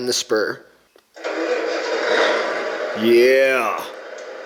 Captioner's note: truck engine roars